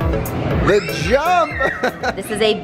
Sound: laughs

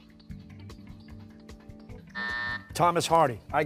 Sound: buzzer

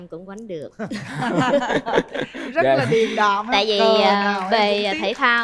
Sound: laughter

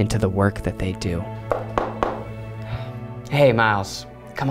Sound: knocking

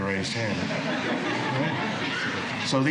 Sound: laughter

